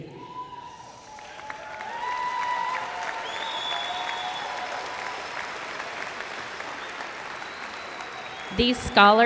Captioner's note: cheers